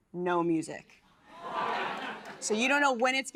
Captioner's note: laughter